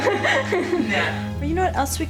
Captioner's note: all laugh